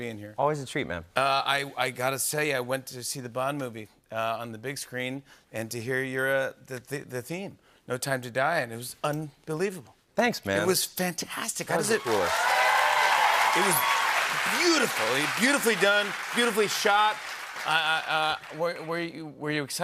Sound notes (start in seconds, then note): 12.3 cheers and applause